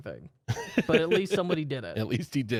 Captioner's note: lightly laughing